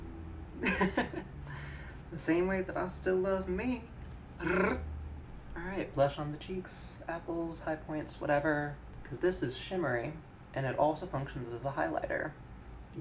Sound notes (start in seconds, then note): 0.6 chuckling; 4.4 rolls tongue